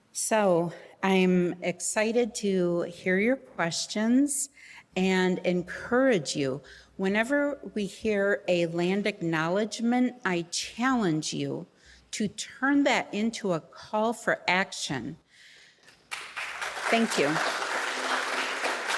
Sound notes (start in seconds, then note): 16.0 audience applauding